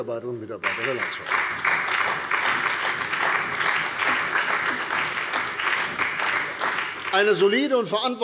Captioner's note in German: Beifall bei der CDU und dem BÜNDNIS 90/DIE GRÜNEN